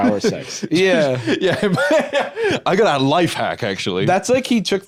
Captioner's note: laughs